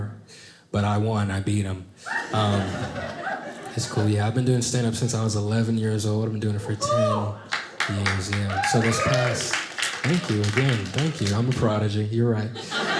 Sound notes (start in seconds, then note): 6.6 audience applauding